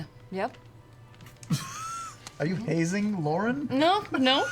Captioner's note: laughs